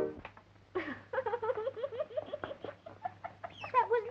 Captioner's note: crying